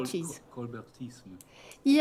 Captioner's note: speaking french